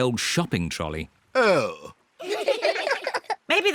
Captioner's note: all giggle